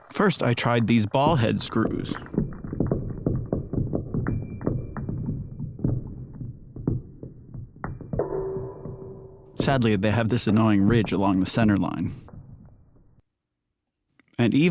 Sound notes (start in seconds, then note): 3.5 thunk; 4.5 ding!